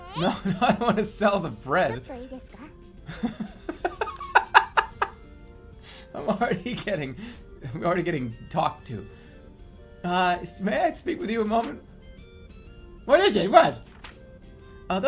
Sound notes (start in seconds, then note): 0.0 laughing; 3.1 laughing louder